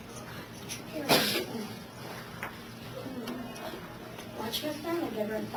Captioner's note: student coughing